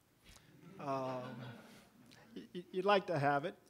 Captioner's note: audience laughing